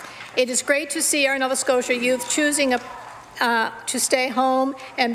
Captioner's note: some Applause